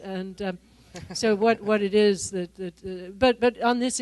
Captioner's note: laughter